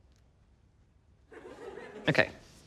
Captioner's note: laughter